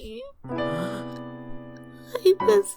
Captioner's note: gasps